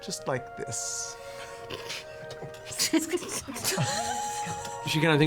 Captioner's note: laugh